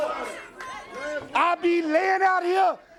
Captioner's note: crowd chatter